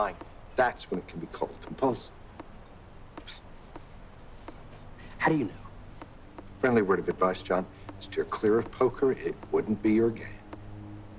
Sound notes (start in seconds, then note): 2.8 scoffs